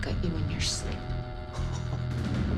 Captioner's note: Steve chuckles